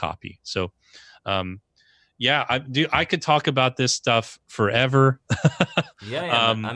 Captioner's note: laughs